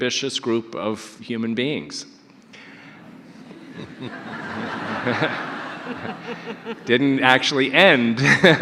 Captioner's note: audience laughter